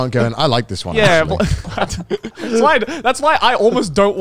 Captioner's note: laughing